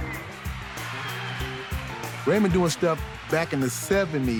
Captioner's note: crowd cheering